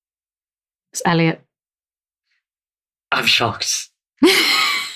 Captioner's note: laughs